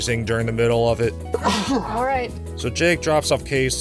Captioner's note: sneeze